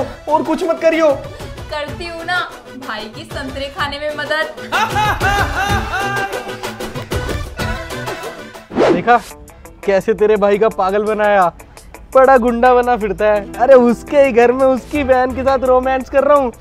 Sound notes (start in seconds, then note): 4.7 Laughs